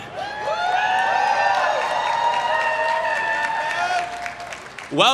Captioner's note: everyone cheering